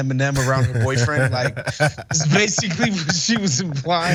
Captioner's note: laugh